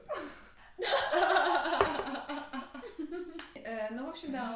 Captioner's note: more heart-warming feminine laughter